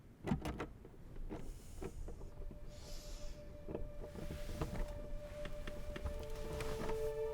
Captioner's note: fumbling of keys at the door